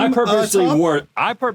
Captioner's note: laughs